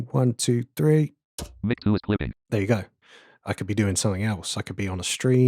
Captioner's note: automated voice